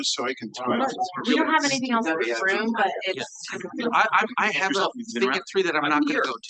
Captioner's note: audience chattering continues